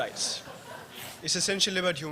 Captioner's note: laughter